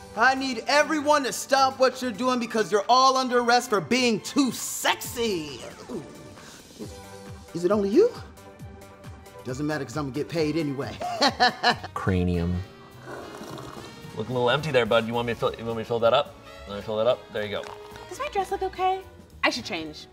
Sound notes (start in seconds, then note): 10.9 laughs